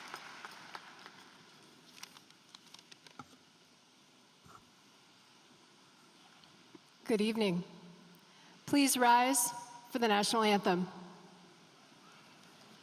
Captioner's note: applause